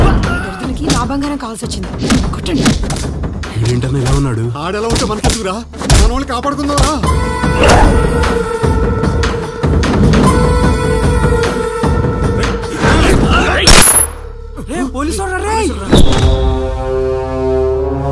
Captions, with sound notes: He needs my jewellery seems beat him. Who is he brother? How does it matter for us? Come we will save people. [Gunshot] Police have come.